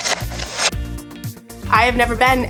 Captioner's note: text whooshes